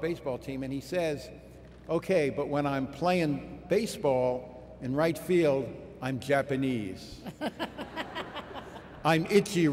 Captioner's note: laughter